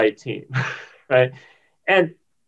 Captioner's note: laughs